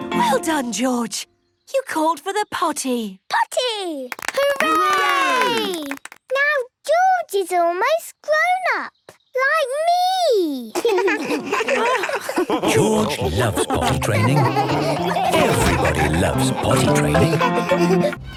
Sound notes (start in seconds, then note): 4.1 cheering, clapping; 11.2 laughs